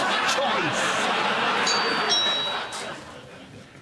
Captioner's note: doorbell